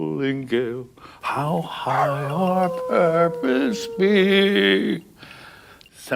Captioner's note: dog howling